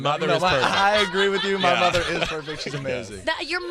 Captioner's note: laughs loudly